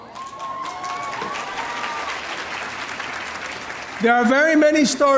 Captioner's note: audience applauding